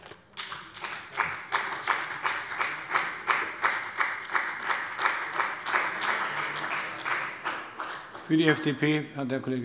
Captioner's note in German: Beifall bei dem BÜNDNIS 90/DIE GRÜNEN und der CDU